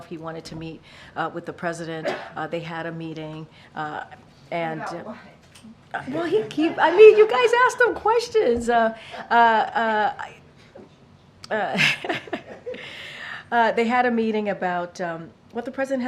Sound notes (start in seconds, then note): 6.1 laughter; 9.3 laughs